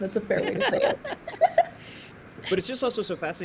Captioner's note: panelists laughing